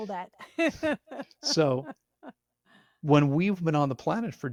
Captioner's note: laughing